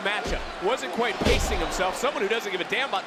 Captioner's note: Frazer thuds